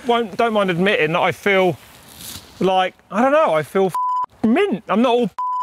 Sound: beep

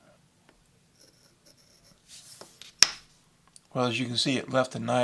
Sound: glass scraping

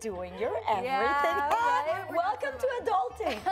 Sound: laughs

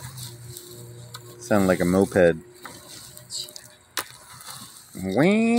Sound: scoffs

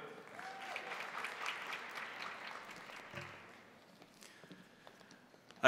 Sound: crowd applauding; crowd cheering

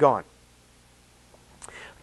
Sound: speaker paused

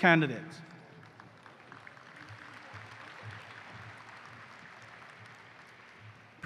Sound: applause

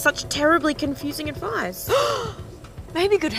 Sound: gasps

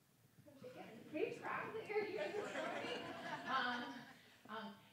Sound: group laughs

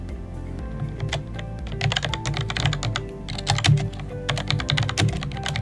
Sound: typing

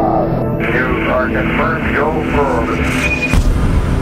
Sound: radio voice 2; radio voice 3

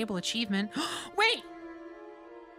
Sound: gasp

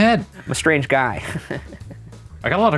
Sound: chuckles

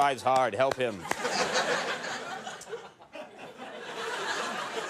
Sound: laughter

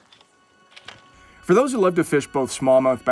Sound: voiceover

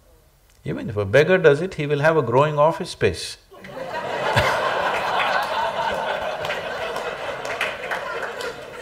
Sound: laughter

